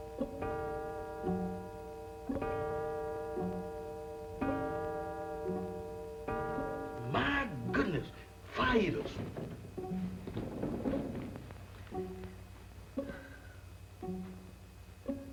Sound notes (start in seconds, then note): 0.1 clock chimes